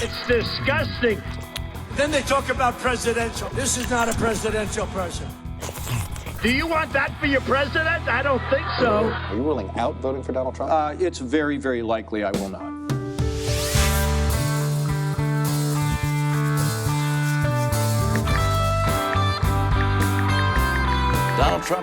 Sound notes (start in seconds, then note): 5.4 slurping; 9.3 belching; 13.1 rock music; 17.3 brush scraping; 18.7 ticking